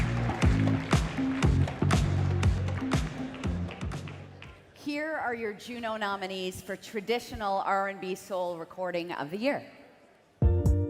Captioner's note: applause